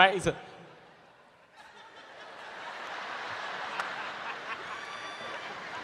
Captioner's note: audience laughing